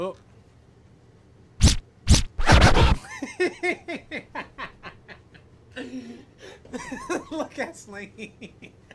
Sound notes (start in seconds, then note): 3.2 giggles; 7.4 laughing